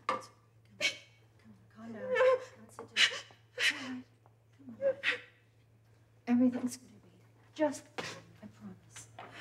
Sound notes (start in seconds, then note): 0.0 sobs; 3.6 Michelle gasping